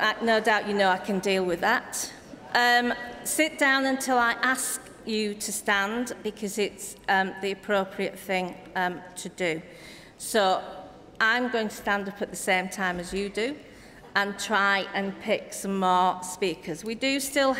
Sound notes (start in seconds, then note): none